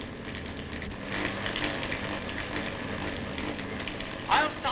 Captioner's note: machine sparking and whirring